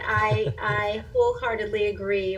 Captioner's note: laugher